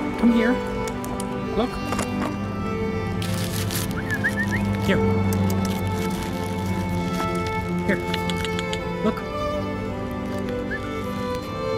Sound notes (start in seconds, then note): 0.8 tongue clicks; 3.2 rustling; 3.9 whistle; 5.3 tongue clicks; 8.0 tongue clicks; 10.6 whistle